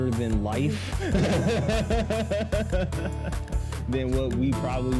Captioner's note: laughs